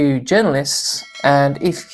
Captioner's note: bell chimes